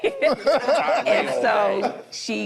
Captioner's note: group laughs